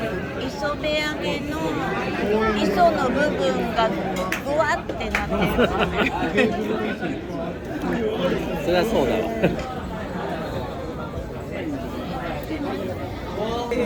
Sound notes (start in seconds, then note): 5.2 laughter